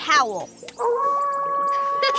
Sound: howling; laughing

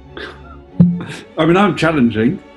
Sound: pop

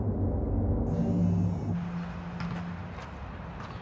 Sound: phone vibrating

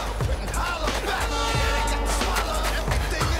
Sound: train whistle sounding

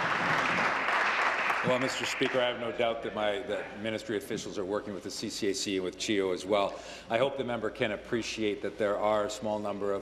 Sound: applause

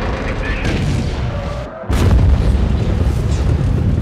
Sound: rocket launch

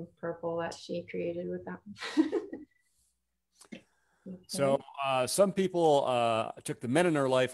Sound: chuckles

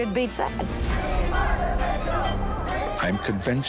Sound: group chanting

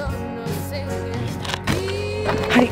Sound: whispering

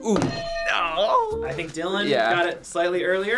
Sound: groaning

